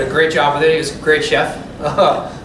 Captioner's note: laughter